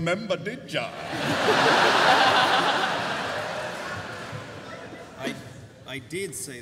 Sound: laughter

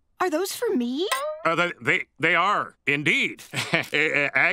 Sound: chuckles

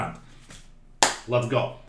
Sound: clap

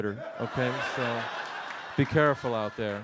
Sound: audience laughs

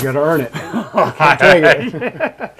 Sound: laughing

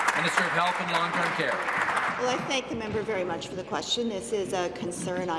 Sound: applause

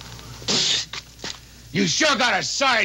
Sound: Royal spitting

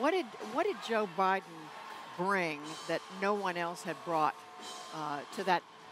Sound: cheering

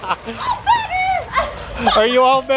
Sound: laughs

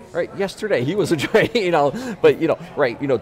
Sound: laughing

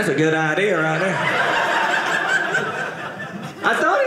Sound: audience laughing

